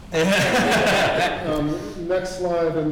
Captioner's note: laughing